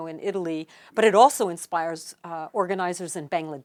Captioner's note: speaking Italian